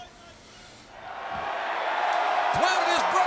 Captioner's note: audience cheering